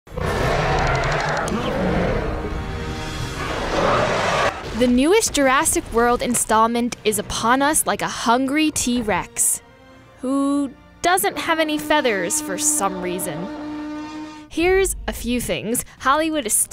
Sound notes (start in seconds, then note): 0.1 roaring